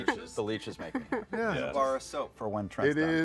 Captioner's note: laughs